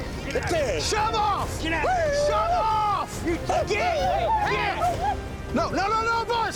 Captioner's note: whooping